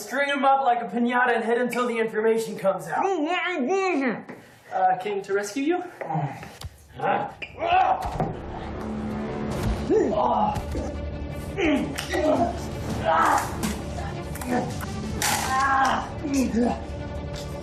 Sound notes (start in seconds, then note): 7.6 tense music; 8.8 grunting